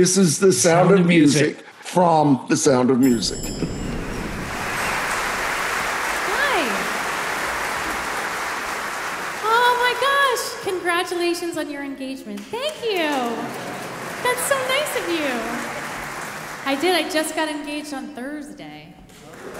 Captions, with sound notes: This is "The Sound of Music" from "The Sound of Music". (audience applauding) - Hi. Oh my gosh. "Congratulations on your engagement." Thank you. That's so nice of you. I did. I just got engaged on Thursday.